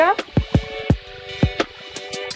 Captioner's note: spherical sounds